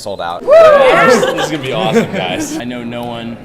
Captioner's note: cheering